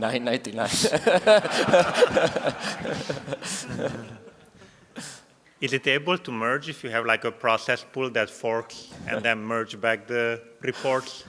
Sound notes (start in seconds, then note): 5.4 laughter